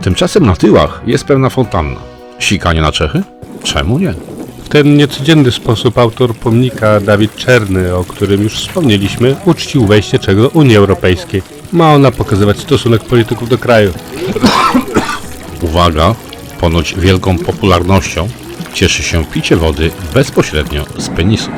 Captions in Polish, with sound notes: Tymczasem na tyłach jest pewna fontanna. Sikanie na Czechy? Czemu nie? W ten niecodzienny sposób autor pomnika, David Černy o którym już wspomnieliśmy, uczcił wejście Czech do Unii Europejskiej. Fontanna ma pokazywać stosunek polityków do kraju. [KASZEL] Uwaga! Ponoć wielką popularnością cieszy się picie wody bezpośrednio z penisów.